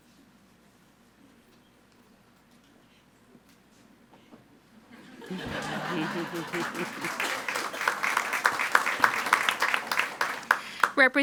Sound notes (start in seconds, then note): 4.9 audience laughing; 7.7 all applauding